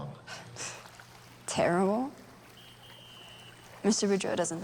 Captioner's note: scoffs